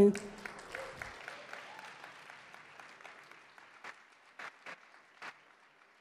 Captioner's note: audience applause